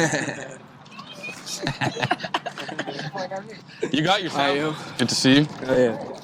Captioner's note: guys laughing